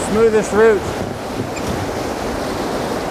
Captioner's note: rushing water